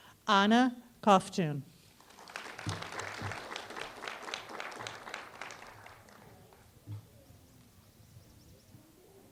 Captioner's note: applause